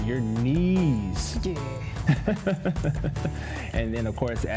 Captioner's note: laughs